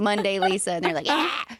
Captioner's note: screeching